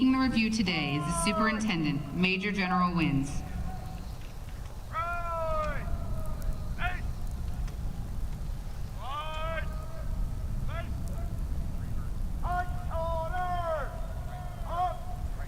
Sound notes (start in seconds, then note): 4.1 shouted commands